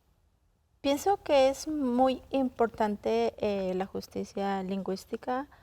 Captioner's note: speaking in Spanish